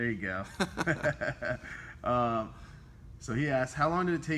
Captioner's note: both chuckle